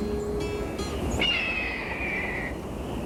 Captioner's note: bird screeches